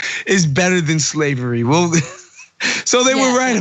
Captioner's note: laugh